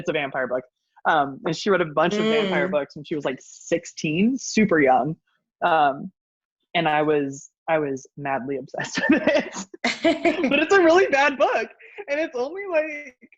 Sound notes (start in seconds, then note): 9.3 laughs